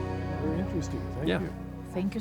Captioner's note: voices